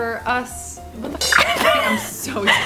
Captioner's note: laughing